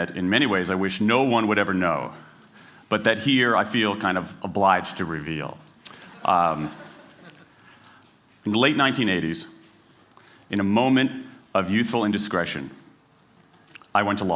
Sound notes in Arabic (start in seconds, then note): 6.4 ضحك